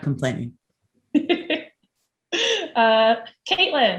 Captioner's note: laughs